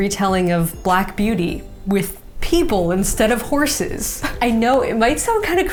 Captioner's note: chuckles